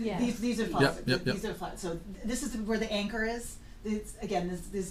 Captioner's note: voiceover